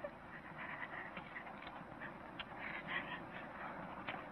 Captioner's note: crying